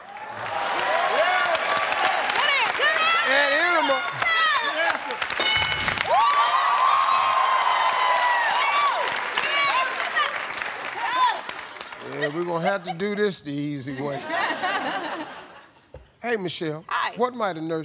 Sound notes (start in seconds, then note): 0.3 cheering and applause; 6.5 cheering and applause; 14.0 laughter